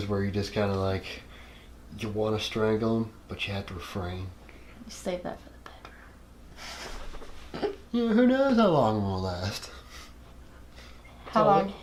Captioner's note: whispering